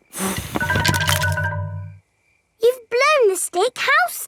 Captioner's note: blowing